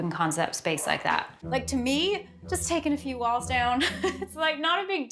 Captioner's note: laughs